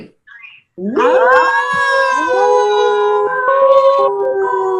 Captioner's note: vocalize howls